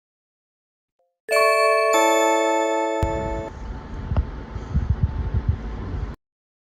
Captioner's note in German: Blink, Türklingel läutet